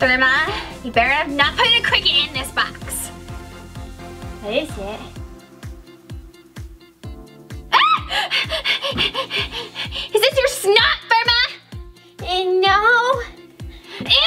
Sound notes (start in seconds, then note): 7.6 Gertie screams